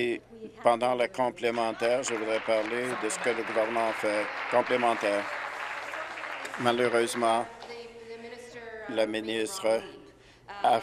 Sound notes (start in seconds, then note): 6.0 applause